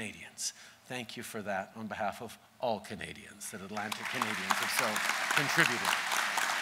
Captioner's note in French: Applaudissements